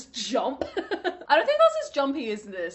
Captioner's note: laughing